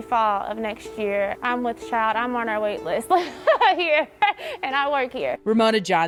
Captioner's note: laughing